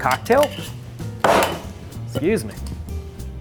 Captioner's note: bottle banging